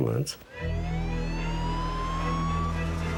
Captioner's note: siren blaring